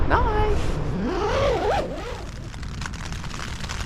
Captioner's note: zipper; rain on tent